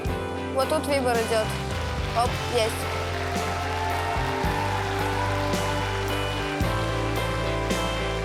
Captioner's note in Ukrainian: оплески